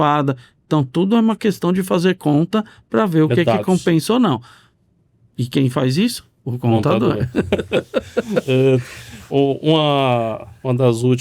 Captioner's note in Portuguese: risadas